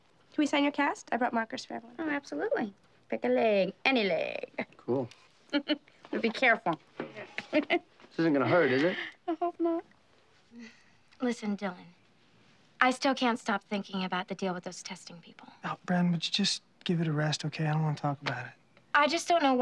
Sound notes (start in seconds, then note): 8.3 chuckles